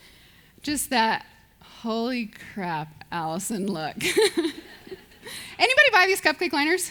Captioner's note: laughs